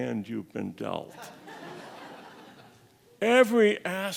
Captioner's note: audience laughs